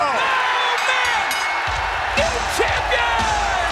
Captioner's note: audience cheers; bell rings; upbeat music